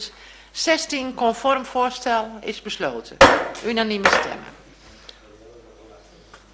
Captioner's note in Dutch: voorzitter klopt met hamer